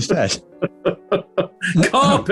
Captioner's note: chuckling